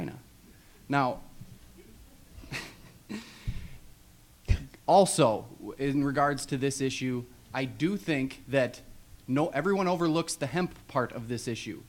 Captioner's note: laughs